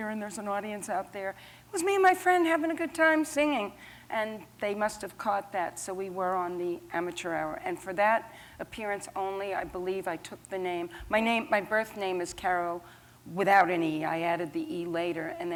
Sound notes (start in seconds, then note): none